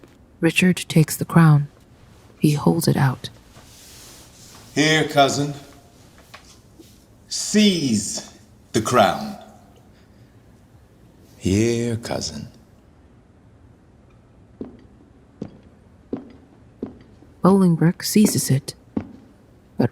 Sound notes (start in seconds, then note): 14.5 footsteps